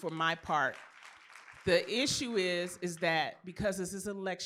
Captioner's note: applause